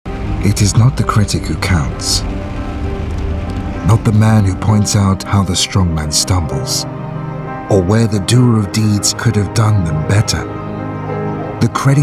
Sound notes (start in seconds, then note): 0.6 voiceover